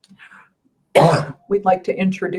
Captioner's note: coughing